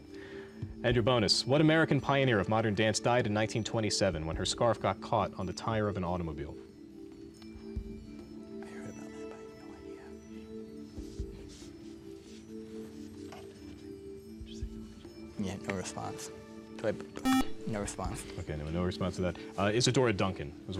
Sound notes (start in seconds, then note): 12.1 whispering